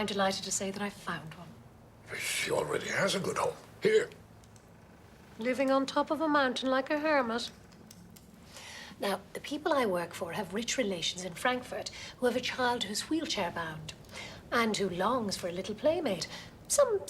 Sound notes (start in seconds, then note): none